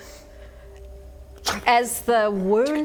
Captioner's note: ptoo